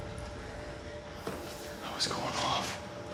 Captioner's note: whispers